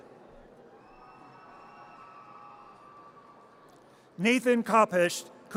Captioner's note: audience cheers